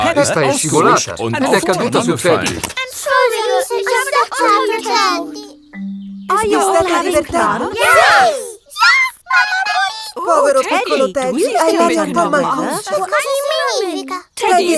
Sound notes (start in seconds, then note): 8.8 in high-pitched voice; 13.2 in normal voice